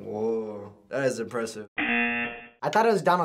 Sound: buzzer

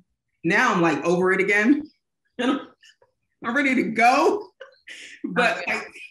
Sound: laughing

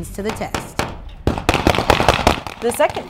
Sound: gunfire

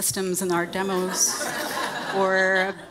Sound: audience laughing

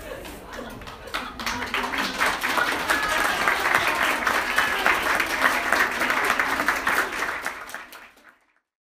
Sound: clapping

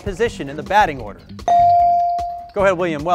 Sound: bell dings

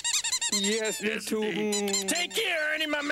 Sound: squeaking

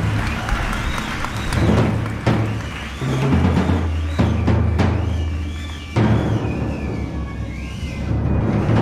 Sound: cheers and applause

